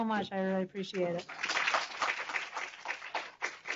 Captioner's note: applause